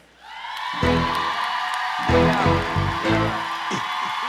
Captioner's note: cheering; applauding